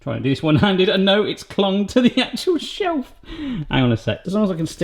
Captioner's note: laughing